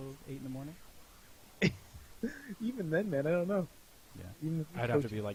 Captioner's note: laughing